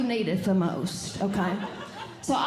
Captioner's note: audience Laughing